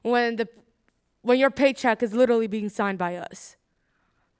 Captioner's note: none